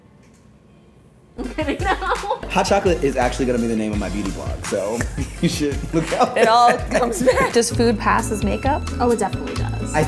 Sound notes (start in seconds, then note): 1.4 laughs